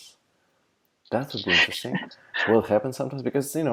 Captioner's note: laughter